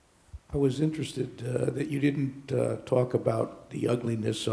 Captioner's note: voiceover